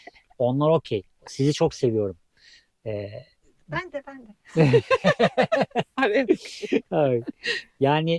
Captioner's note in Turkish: kahkaha; kahkaha